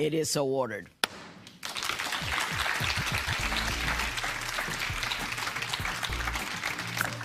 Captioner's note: applause